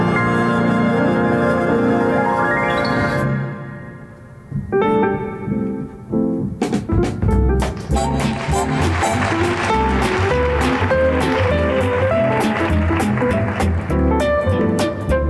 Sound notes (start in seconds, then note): 4.9 jazzy piano music; 7.7 audience applauding